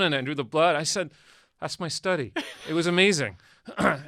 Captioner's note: laughs